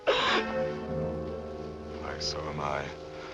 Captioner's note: collapses sobbing